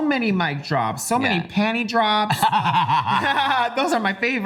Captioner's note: laughs